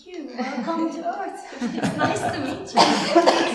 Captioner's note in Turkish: gülüşmeler